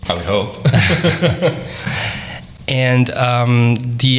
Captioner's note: laughing